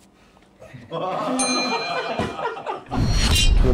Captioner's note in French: rires